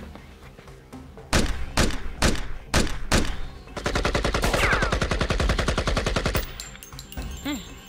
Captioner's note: gun shots being fired can be heard